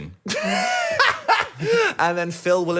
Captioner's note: laughs